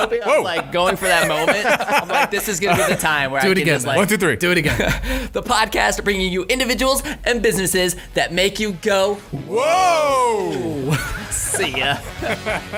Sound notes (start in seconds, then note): 10.2 laughing